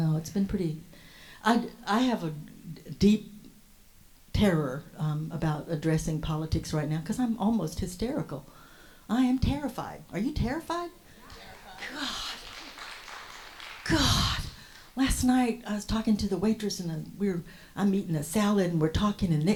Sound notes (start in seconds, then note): 11.2 audience applauds; 14.6 whispers